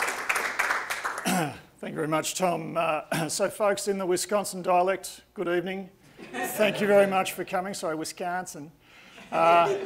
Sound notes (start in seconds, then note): 6.2 audience laughing; 9.2 audience laughing